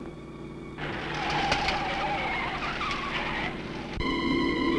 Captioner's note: tires screeching